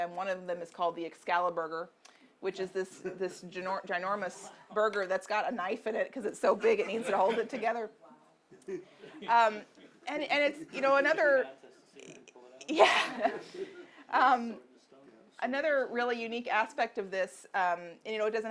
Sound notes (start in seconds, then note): 12.1 audience member murmuring; 12.6 laughs